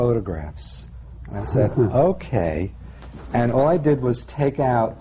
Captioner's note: laughter